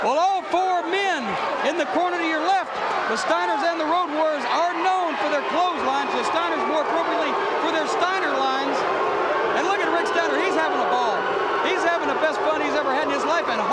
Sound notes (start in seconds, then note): 8.5 audience barks